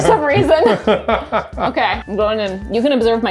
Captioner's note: laughs